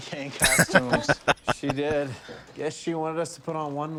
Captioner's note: laughing